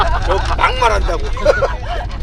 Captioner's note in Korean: 웃음